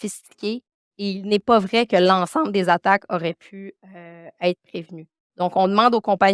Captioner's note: continues speaking French